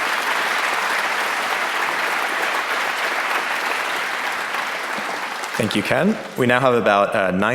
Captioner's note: applause